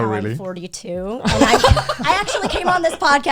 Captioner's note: guys laughing